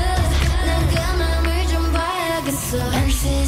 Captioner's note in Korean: 짝 짝 짝 짝